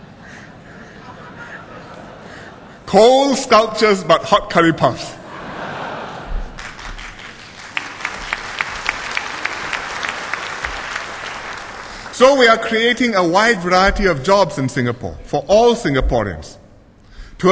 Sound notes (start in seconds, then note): 0.6 laughter; 5.3 laughter and applause